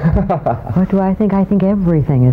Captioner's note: laughter